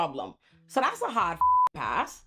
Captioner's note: beep